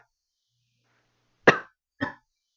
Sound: coughs again

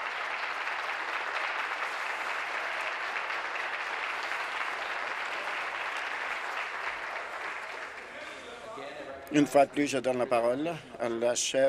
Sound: applause

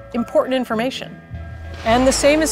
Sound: whale blow hole splash

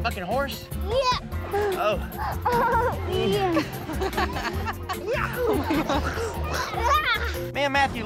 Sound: laughing

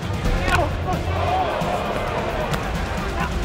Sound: crowd gasps

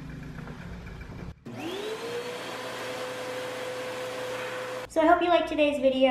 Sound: vacuum noise

